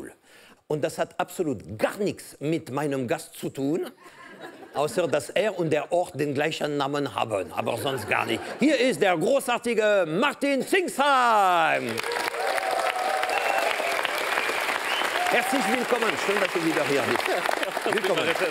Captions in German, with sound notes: Das hat nichts mit meinem Gast zu tun, außer, dass er und der Ort den gleichen Namen haben. Hier ist der großartige Martin Zingsheim. (Applaus) Herzlich willkommen. Schön, dass du wieder hier bist.